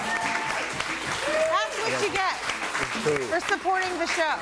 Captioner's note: audience cheering and applauding